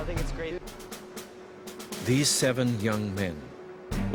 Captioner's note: voiceover